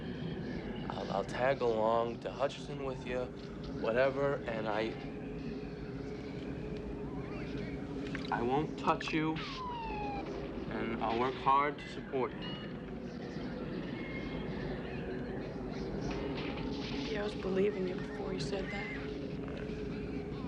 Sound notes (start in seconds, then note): none